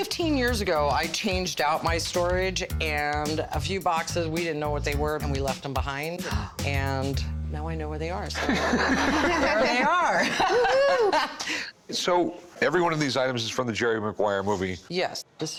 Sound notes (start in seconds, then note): 8.3 laughter; 8.4 laughing